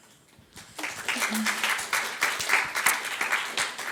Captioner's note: audience applauds